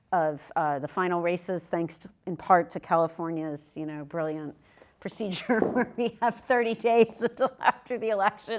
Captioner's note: laugh